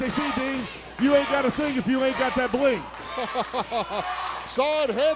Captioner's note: laugh